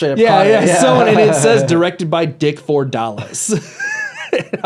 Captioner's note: laughs